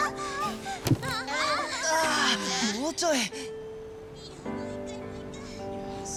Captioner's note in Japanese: 泣き声